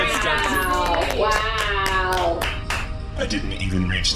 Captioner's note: scattered applause